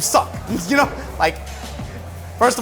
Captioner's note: hands clapping; chuckles